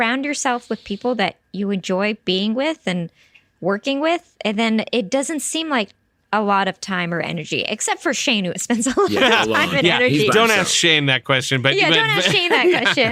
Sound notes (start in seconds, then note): 8.9 nervous laughter; 11.9 laughter